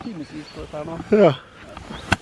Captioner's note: yawns